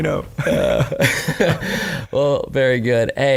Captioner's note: laughing